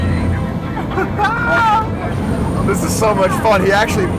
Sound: laughs

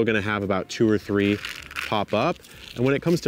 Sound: seeds rattle

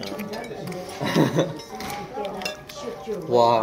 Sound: laughing

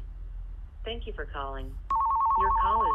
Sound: phone ringing

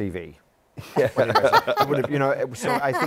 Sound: laughs

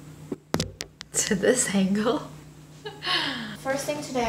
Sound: laughing

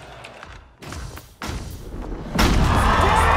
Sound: thudding

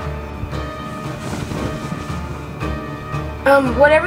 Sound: dress rustles

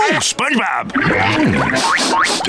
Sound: sniffing

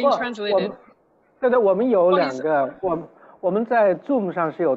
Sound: Mandarin

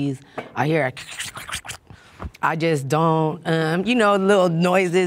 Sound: crackles

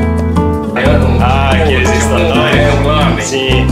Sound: speaking Portuguese

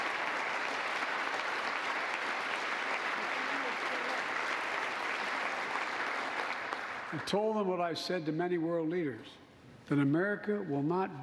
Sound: applause

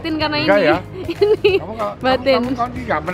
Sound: chuckled

